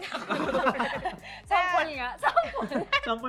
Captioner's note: laughs